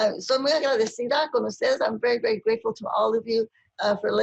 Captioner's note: speaking spanish